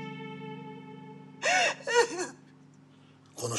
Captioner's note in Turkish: Ağlama sesi